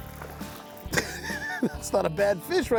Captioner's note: laughing